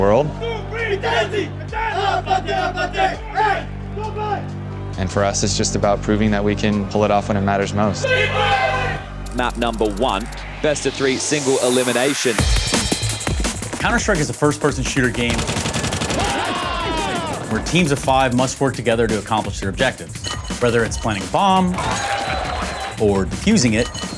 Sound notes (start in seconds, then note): 14.4 gunshots firing; 15.3 shouts